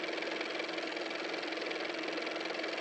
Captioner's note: car motor